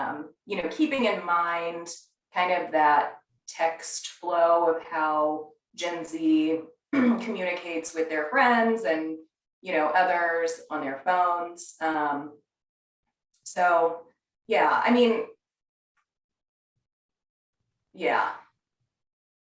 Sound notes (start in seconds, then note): 6.9 cough